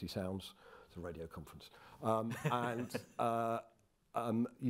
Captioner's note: chuckling